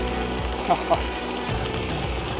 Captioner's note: laughing